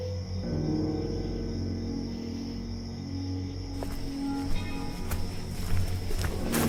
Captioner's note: crickets chirp; tense music